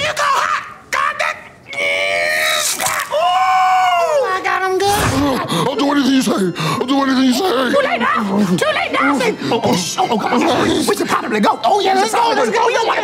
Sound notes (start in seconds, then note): 0.0 Esther yelling; 2.6 cracking; 9.6 shushing